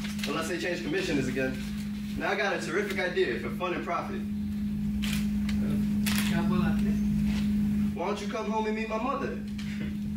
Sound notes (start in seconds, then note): 6.5 speaks in foreign language